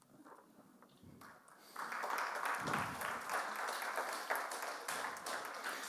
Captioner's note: audience clapping